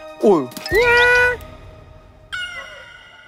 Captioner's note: meow